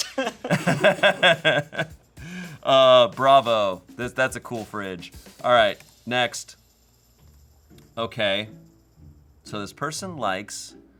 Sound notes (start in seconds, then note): 0.0 laughing; 6.7 key clacking; 8.4 soft music